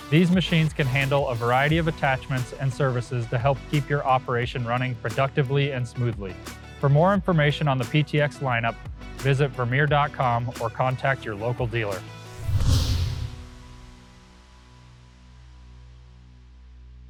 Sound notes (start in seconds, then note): 12.3 logo swooshing